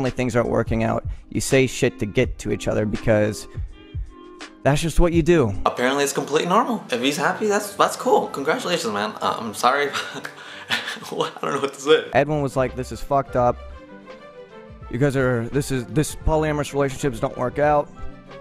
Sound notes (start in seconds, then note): 9.8 laughs